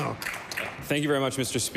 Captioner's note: applause